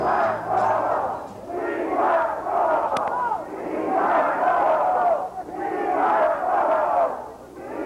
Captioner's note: crowd chanting: We want Cuomo. We want Cuomo